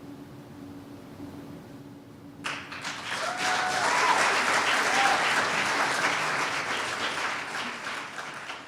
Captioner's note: cheers and applause